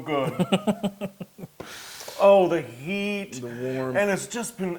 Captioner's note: laugh